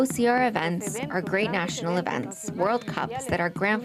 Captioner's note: speaking alternate language